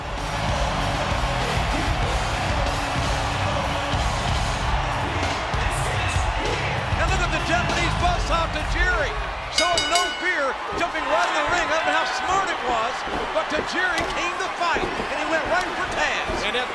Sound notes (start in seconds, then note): 0.1 dramatic music; 9.4 bell rings